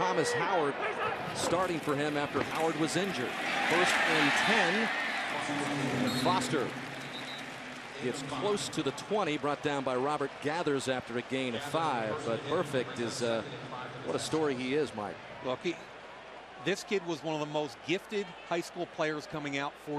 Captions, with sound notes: coming in for Thomas Howard, starting for him after Howard was injured. First and 10. [pa announcement] And Foster-- [whistle blows] --gets close to the 20, brought down by Robert Geathers after a gain of 5. But Burfict, what a story he is, Mike. Look, this kid was one of the most gifted high school players